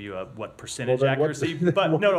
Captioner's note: laughter